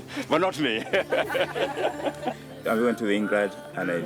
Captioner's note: chuckles